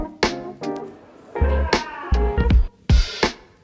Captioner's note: man screaming outside